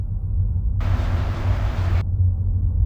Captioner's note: train whooshing